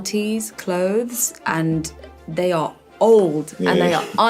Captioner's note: chuckling